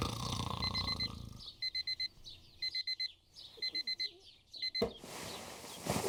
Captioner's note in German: Weckerklingeln